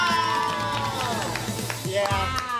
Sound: contestants applauding

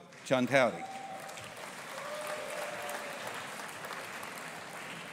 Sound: audience applauding

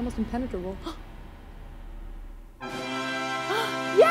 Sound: gasps; celebratory music

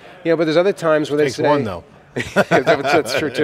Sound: laughs

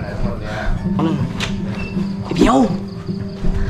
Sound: door opened

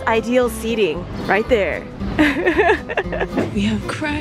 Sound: laughs

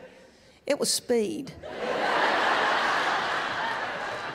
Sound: laughter

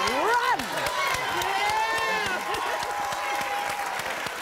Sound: cheers

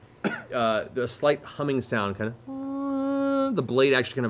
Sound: hums

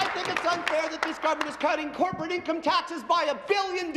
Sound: applause

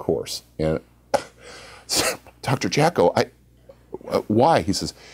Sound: cough

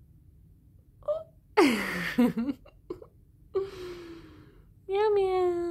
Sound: laughs

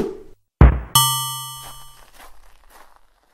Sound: ding

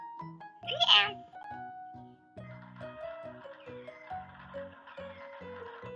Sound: hands Clapping

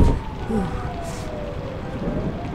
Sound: siren blaring; mother thudding

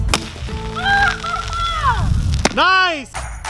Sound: loud splashing; screaming

